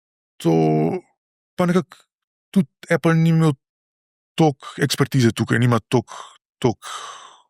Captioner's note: sigh